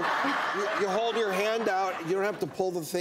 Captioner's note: audience laughs